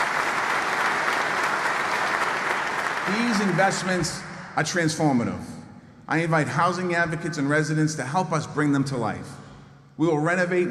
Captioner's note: applause